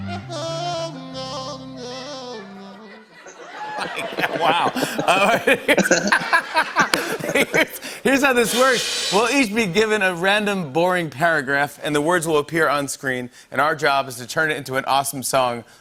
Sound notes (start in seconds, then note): 5.4 laughter